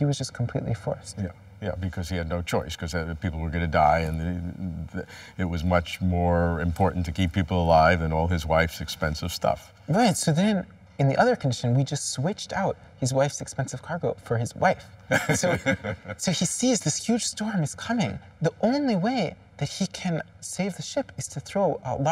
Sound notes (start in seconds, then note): 15.1 laughter